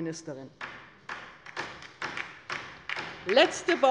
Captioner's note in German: Beifall bei der LINKEN